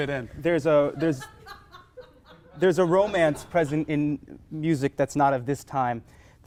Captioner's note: audience laughing